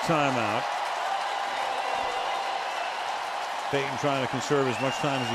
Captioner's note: cheering